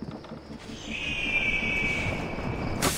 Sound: eagle screech

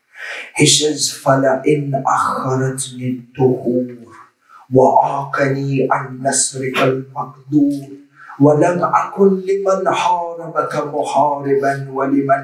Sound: Arabic

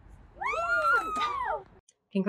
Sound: crowd applause

